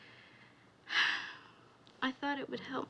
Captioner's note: sighs